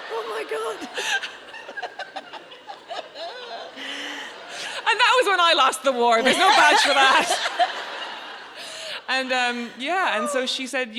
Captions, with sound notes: - Oh, my god! (both laughing) - And that was when I lost the war. There's no badge for that. (audience laughs) And yeah, and so she said,